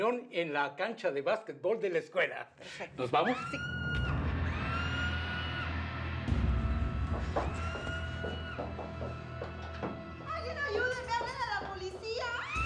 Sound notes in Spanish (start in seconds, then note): 3.2 se oyen gritos